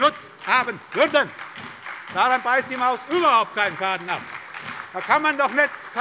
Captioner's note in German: Beifall bei der SPD